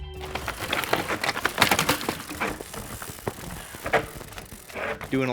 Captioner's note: engaging music; bike crashes